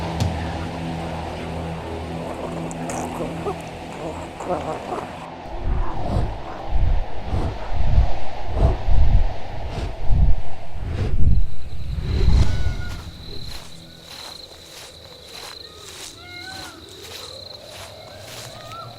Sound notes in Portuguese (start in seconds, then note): 8.4 Bater de grandes asas; 12.1 Grilos; 13.3 Passos no chão; 16.3 Canto de pássaro; 17.7 Vento suave